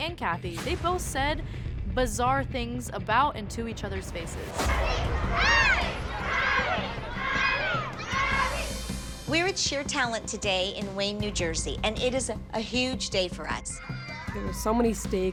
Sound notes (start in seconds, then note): 4.5 chanting